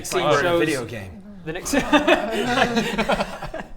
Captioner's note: laughs